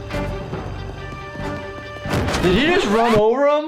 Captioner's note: footsteps pattering